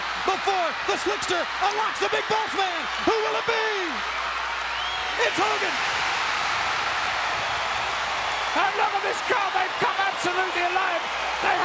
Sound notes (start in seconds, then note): 5.7 crowd cheering